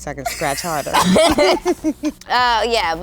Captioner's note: group laughs